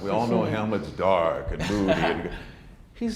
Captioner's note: laughs